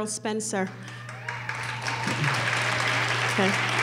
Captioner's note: applause